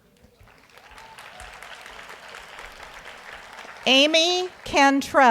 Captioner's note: audience applauds